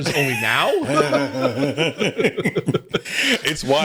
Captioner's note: both laughing